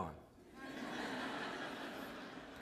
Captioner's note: laughter